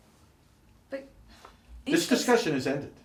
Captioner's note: sighs